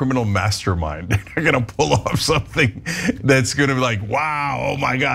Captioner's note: laugh